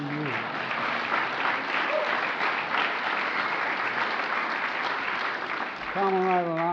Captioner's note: laughter and applause